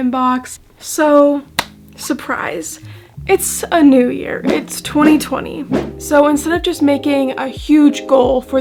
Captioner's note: said sarcastically